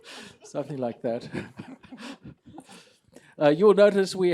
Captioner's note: laughter